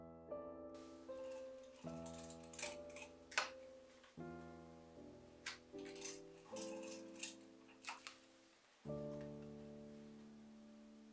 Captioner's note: soft crafty noises